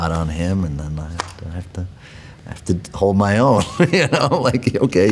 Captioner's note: laughs